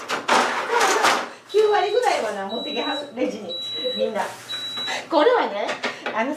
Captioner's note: laughs